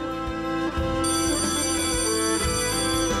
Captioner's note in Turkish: Zil çalıyor